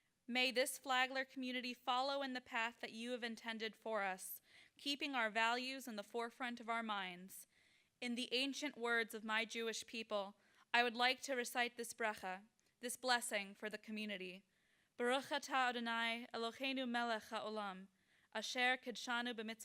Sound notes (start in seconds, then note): 15.0 speaking in foreign language